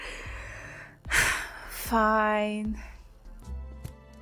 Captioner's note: sigh